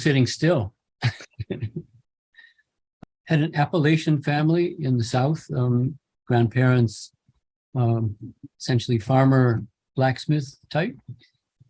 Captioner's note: chuckle